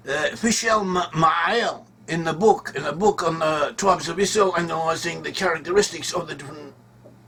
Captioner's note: Hebrew-language